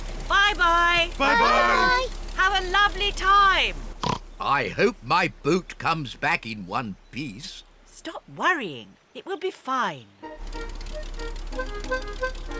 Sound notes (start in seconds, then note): 4.0 oinks